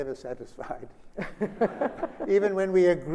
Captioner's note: Sonia laughs